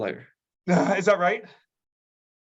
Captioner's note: laughs